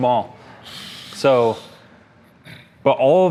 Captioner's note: big sigh